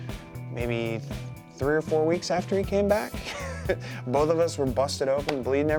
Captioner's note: laugh